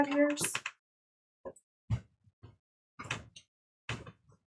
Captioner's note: keyboard clicking